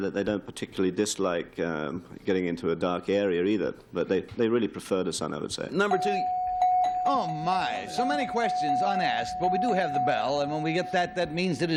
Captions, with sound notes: They like the sun, but they don't particularly dislike getting into a dark area, either. But they really prefer the sun, I would say. - Number 2-- [ringing] Oh, my. So many questions unasked. But we do have the bell.